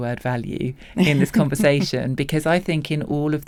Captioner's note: laughs